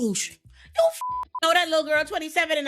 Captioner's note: beep